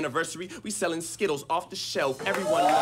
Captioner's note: audience cheers